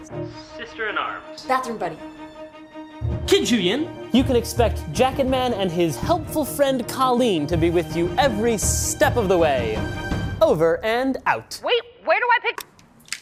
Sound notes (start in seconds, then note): 11.5 on phone